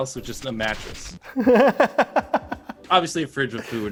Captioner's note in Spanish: inserte una risa incómoda e incómoda